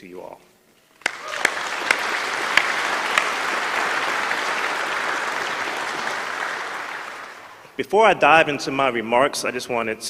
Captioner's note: applause